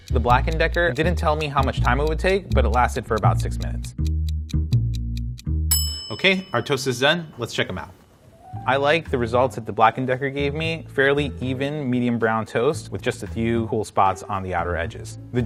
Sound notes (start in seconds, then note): 4.1 timer ticking; 5.7 timber ringing